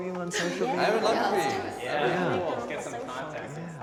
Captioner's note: group agreement; indistinct conversation